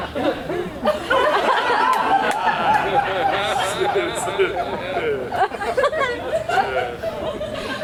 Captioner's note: audience laughs